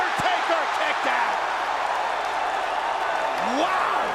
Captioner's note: crowd cheering